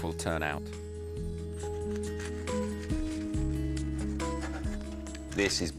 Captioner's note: gentle bright music; bread crunches